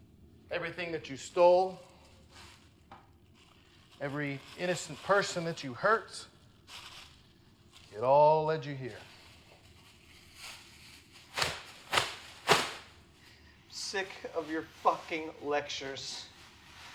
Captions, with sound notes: everything that you stole, every innocent person that you hurt, it all led you here. (sound of plastic sheeting) I'm sick of your fucking lectures.